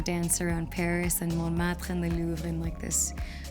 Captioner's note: speaking foreign language